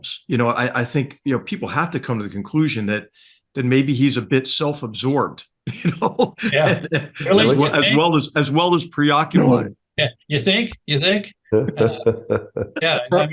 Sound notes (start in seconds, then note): 5.7 laugh; 11.5 laugh